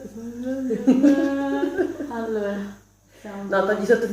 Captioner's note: nervous singing; hysterical laughing